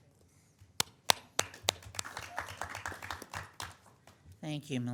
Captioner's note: audience applauding